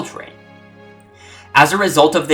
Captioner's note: breathe